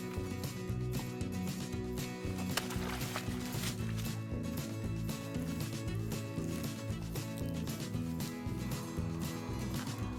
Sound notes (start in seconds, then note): 2.3 splashing of stream; 6.5 light instrumental music